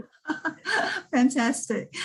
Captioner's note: laughing